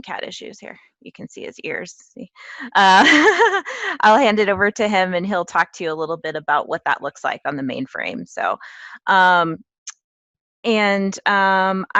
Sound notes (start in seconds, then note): 2.5 laugh